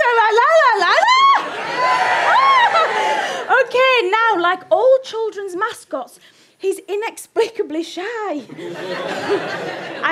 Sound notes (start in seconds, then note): 1.0 audience cheers louder; 8.5 audience laughter